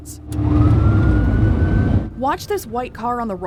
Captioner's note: police sirens wailing